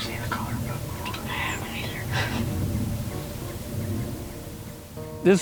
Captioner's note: whispering